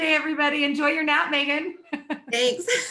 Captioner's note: laughs